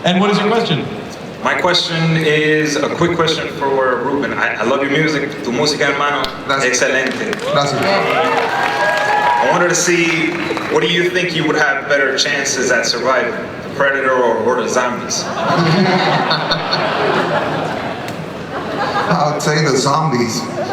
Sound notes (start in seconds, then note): 1.3 voiceover; 6.0 speaks in Spanish; 15.2 laughter